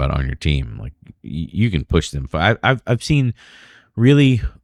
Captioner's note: uh